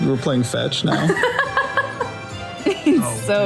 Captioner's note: laughs